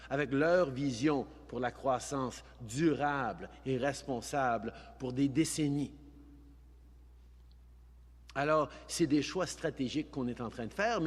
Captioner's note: speaking in french